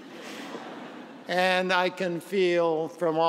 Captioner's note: laughter